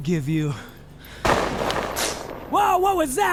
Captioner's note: thunderous crack booming